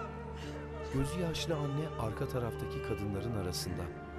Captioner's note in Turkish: Kadın ağlama sesi; Müzik - Duygusal